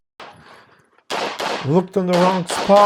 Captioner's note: gunshots banging